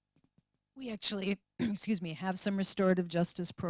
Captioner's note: cough